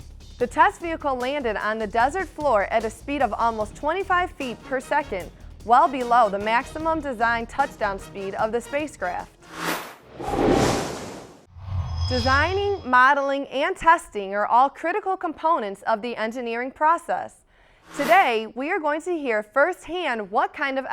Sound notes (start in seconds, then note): 9.4 sound Effects